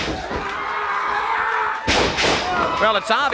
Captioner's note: Lex grunting; body thuds